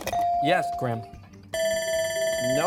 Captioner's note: bell ringing